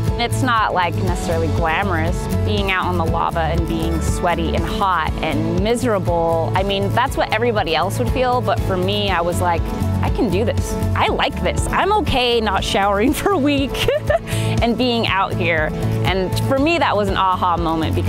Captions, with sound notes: It's not like necessarily glamorous. Being out on the lava and being sweaty and hot and miserable, I mean that's what everybody else would feel, but for me, I was like, "I can do this. I like this." I'm okay not showering for a week, *laughs* and being out here. And for me that was an 'aha' moment